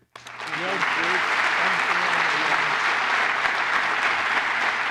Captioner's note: applause